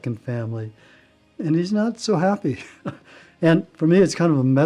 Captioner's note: laughing